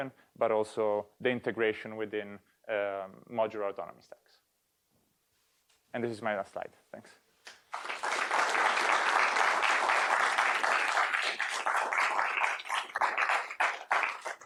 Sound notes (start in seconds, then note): 7.5 applause